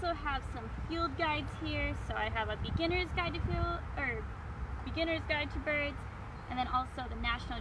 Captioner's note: stumbles with words